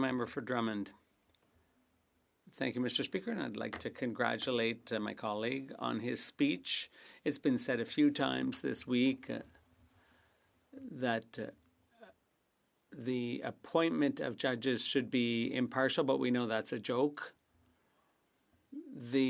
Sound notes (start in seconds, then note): 3.2 speaking French